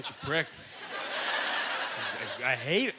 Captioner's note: audience laughter